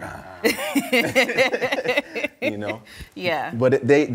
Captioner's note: laughs